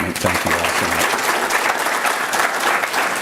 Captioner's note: applause